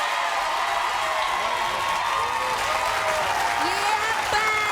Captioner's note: audience cheering